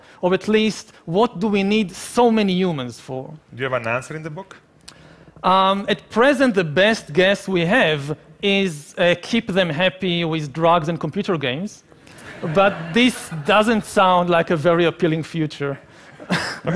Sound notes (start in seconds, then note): 12.2 laughing